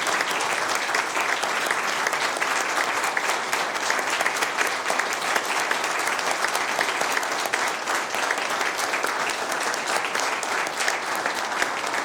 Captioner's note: applause